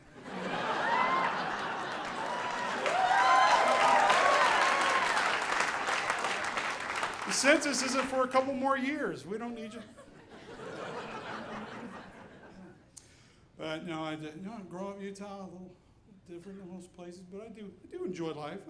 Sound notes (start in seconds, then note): 0.3 audience applauding; 9.7 audience laughing